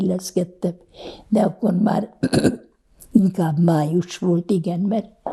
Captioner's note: clears throat